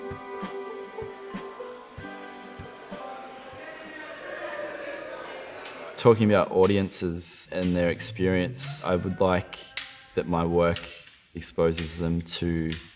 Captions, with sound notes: (crowd talking) Talking about audiences and their experience, I would like that my work exposes them to